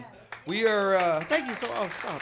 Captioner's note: audience applauds